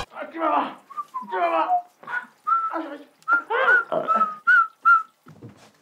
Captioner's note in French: sifflement de devant la glace